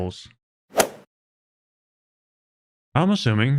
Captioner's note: golf ball hit sound effect